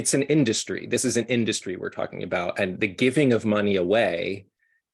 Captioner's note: none